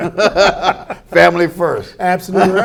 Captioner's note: laughter